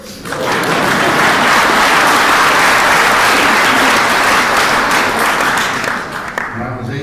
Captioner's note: applause and laughter